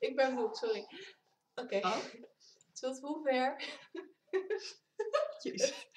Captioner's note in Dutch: gegiechel